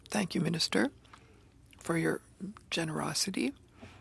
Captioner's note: speaking French